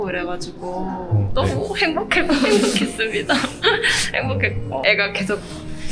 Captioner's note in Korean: 울먹